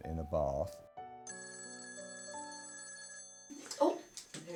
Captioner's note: phone rings